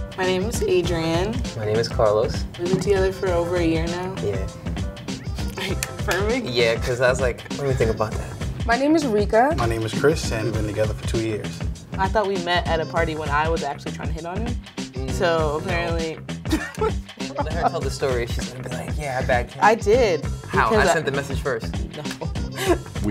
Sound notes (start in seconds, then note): 16.4 girl chuckling